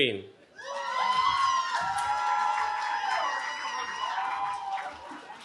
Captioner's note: cheering